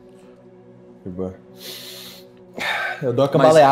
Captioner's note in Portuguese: suspiro